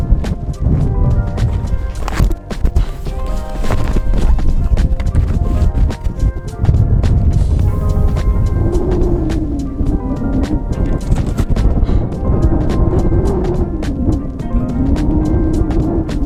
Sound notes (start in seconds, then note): 1.4 camera falling; 9.1 wind howling